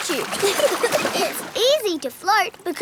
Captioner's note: giggling